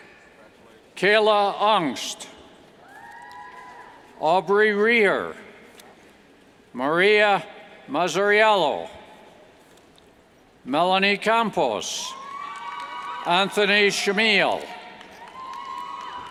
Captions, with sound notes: Kayla Aungst, (cheers) Aubrey Reeher, Mariah Mazzariello, Melanie Campos (cheers and applauds) Anthony Chmiel, Alexis Bastis,